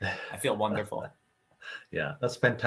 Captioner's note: laughing